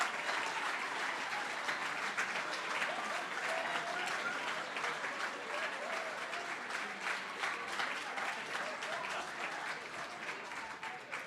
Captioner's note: cheering & Applause